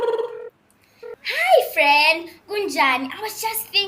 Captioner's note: phone rings